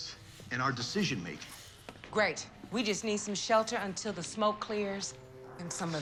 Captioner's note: none